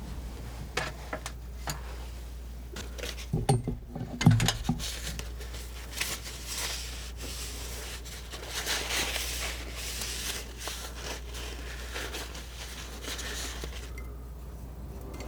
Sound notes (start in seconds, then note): 3.8 scratching